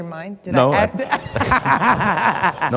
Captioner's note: laughs; audience laughs